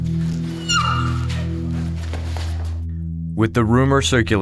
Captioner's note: woman screaming